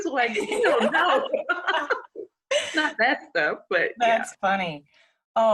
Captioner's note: both laughing